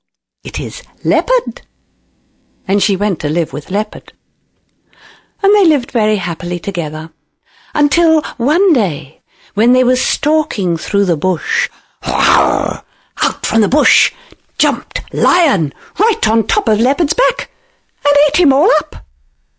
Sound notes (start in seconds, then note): 12.1 lion's roar